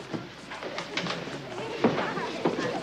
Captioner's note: crowd chatter